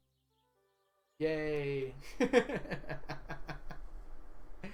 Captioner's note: laughs